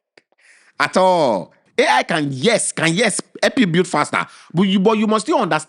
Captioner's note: laughs